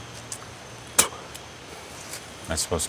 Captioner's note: mechanic spits